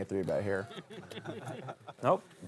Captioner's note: table laughter